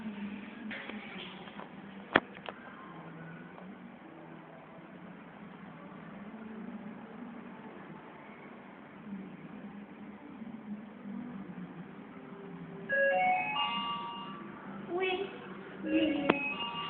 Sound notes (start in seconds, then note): 13.0 down Chime